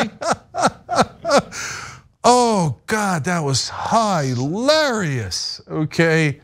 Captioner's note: laugh